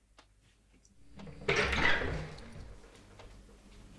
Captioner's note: door opening